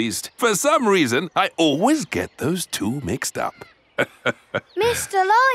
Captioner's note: laughs